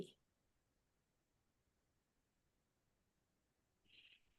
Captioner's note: silence